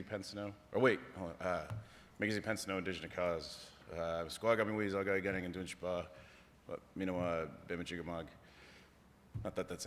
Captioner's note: non-english